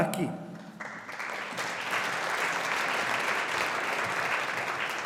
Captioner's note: audience applauding